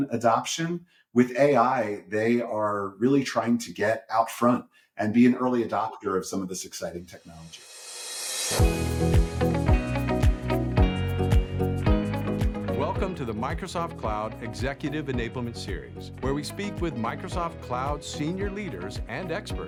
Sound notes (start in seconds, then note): 8.4 upbeat music; 13.2 voiceover